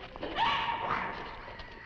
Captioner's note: Nan screaming